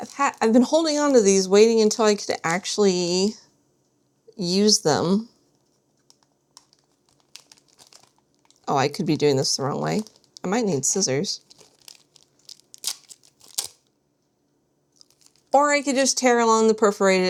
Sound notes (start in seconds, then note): 11.4 package rips